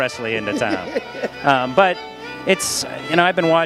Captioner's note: laughs